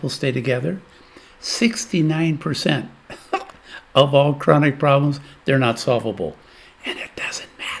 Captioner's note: laughs